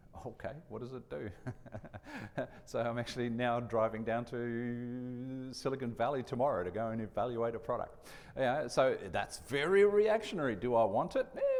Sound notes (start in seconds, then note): 1.3 chuckles